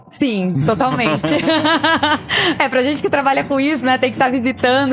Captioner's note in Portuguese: risadas